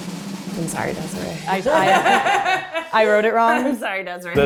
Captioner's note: drum roll music; laughing